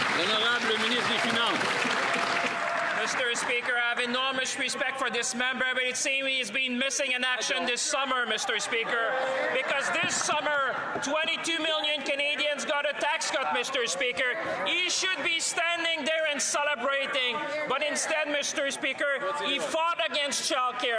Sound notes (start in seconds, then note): 3.3 applause; 6.8 speaking French